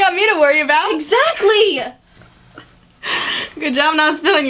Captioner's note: still laughing